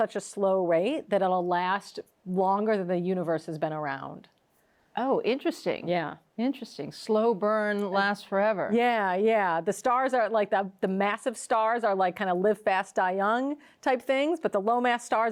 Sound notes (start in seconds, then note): none